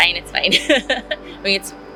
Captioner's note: laughs